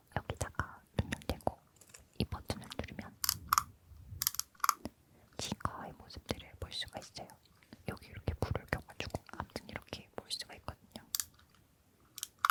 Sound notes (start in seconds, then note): 3.2 click click